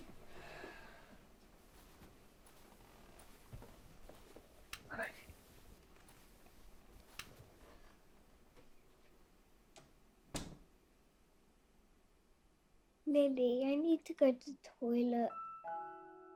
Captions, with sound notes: (Jim sighing) Night. (door clicking) - Lily, I need to go to toilet.